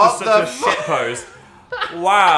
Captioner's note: laughing